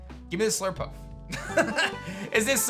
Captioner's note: laughs